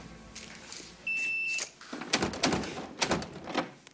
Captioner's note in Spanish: Sonido al marcar; Bip; Ruido al tratar de abrir